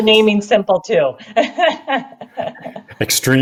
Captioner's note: chuckles